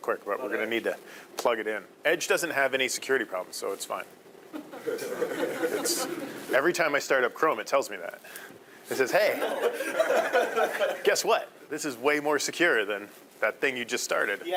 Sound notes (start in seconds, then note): 4.5 audience laughing; 9.3 audience laughing